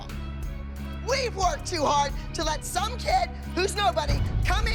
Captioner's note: yelling